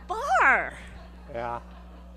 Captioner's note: audience laughing